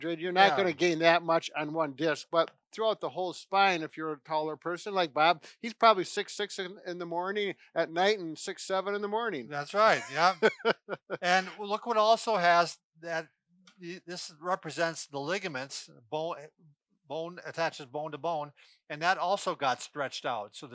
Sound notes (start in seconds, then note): 9.6 laughs